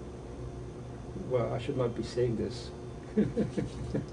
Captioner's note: laughs